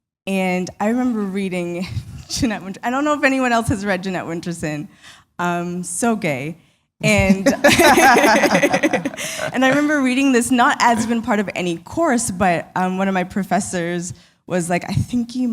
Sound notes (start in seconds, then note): 7.2 laughter